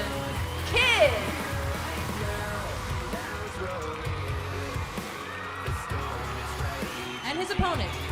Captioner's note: crowd cheering